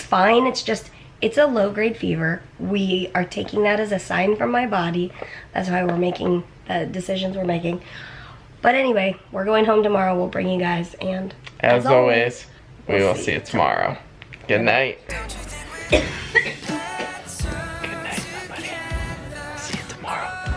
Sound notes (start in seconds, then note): 15.5 coughing